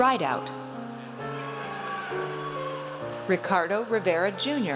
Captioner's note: audience cheers